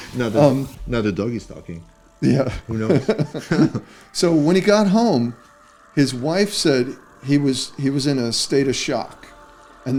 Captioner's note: laughter